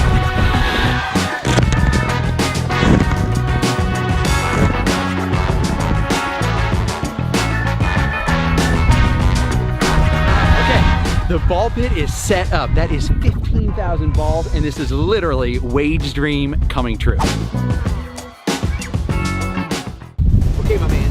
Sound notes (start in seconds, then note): 1.3 balls landing; 16.7 energetic music